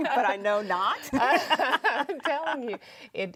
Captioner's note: women laugh